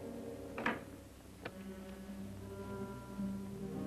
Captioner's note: door clunks; sinister music